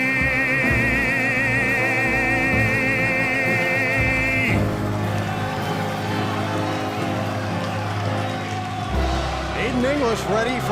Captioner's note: crowd cheering